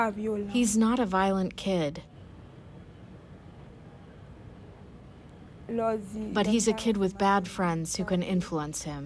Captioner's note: through translator